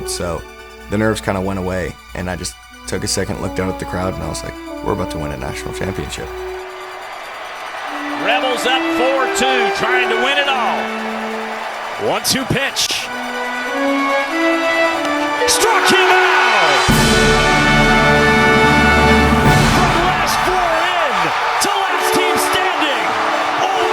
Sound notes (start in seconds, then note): 18.2 cheering